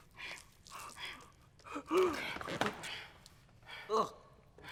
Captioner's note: breathing heavily